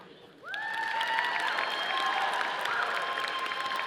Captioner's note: audience applauding